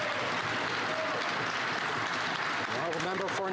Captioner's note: crowd Noise; applause